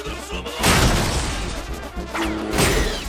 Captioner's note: boom!